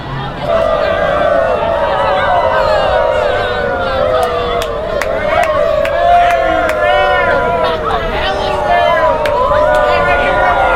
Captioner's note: howling